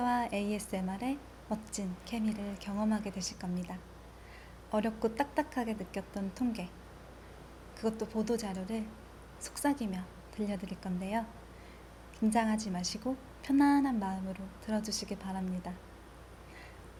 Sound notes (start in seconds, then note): 4.0 breathing